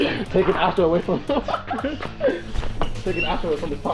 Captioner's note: laughs